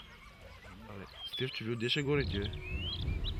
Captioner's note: speaking in Bulgarian